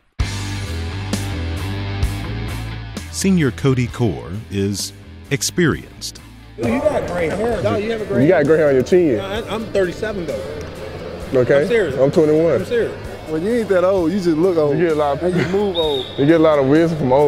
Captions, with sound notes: (energetic guitar music) - [Voiceover] Senior Cody Core is experienced. - You got grey hair. - No, you got grey hair. - You have grey hair on your tee. - I'm 37, though. - Okay, I'm 21. - I'm serious. - When you get that old, you just look old. - You move old.